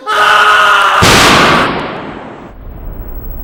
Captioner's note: gunshot